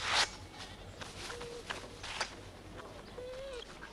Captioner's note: Beast whines